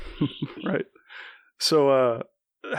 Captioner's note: laughs